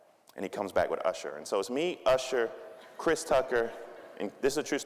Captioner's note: audience laughing